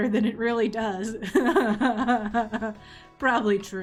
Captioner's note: laughs